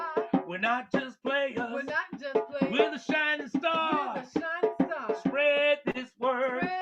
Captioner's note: singing; echoing